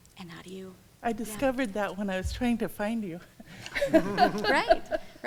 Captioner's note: laughing